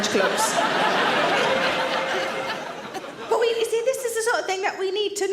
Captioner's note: audience laughs